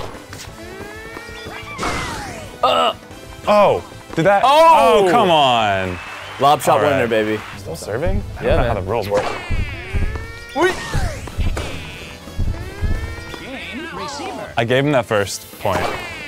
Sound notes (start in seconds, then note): 2.6 groans; 11.3 grunts